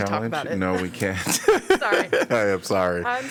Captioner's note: laughter